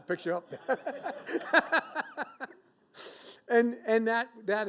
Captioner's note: laughs